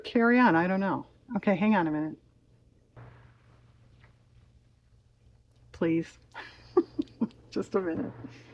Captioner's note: laughs